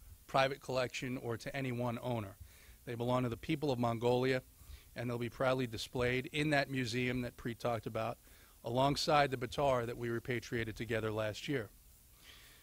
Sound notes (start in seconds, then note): none